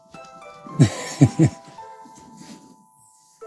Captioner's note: laughter